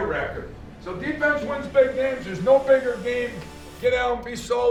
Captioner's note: faintly speaking